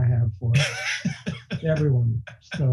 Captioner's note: laughing